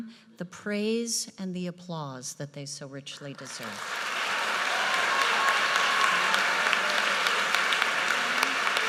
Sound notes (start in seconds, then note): 3.5 audience cheers and applauds